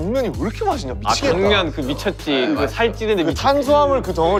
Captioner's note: mouth waters